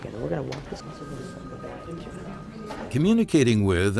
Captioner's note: phone ringing